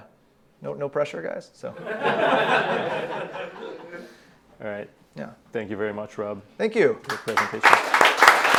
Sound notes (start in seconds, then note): 1.8 nervous laughter; 7.0 loud clapping